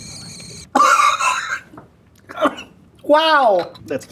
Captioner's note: coughs